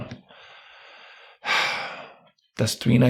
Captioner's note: sighs